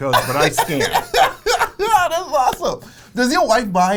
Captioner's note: laughs